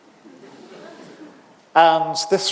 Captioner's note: audience laughing